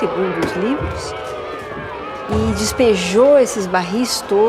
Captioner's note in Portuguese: vozerio de protesto